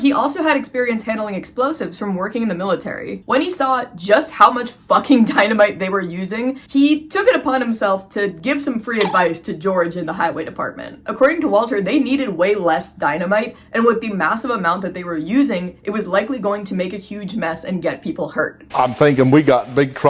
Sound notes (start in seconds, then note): 9.0 poke sound effect